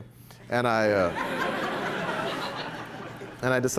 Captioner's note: laughter